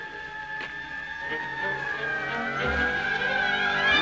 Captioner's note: sirens wailing